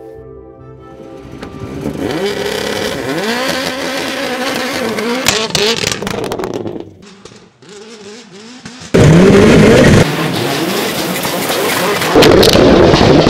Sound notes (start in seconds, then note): 2.4 race car engine revving and sputtering